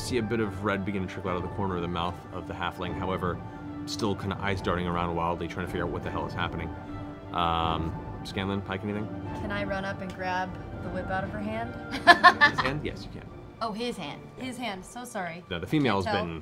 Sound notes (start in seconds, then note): 11.9 laughing